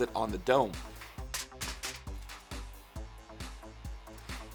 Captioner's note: tins clattering